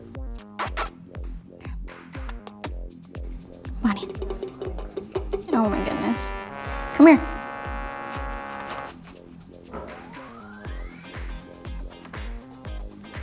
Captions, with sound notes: Bonnie. (nails tapping) Oh my goodness, come here. (fail buzzer blaring)